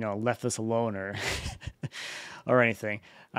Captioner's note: chuckling